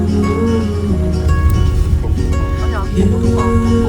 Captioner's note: honk honk